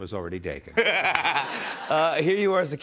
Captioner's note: laughs